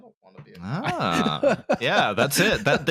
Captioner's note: laughs